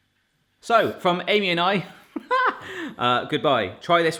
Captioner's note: laughs